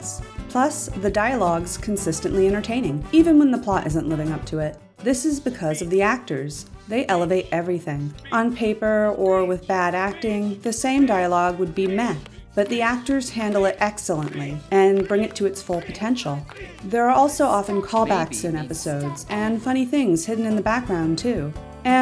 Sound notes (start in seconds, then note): 7.5 characters chanting "Speech!"; 9.7 characters chanting "Speech!"; 14.0 characters chanting "Speech!"